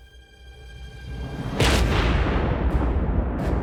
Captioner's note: gunshot; mysterious music playing